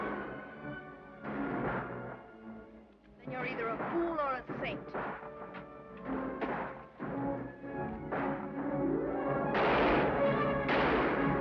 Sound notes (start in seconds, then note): 5.7 exciting music; 5.7 gun bangs